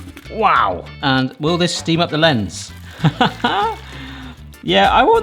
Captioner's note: laughs